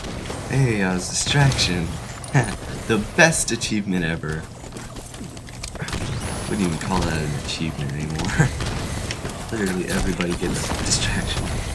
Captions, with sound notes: Hey, I was "Distraction". (Laughs) The best achievement ever. I wouldn't even call that an achievement anymore. Literally everybody gets "Distraction".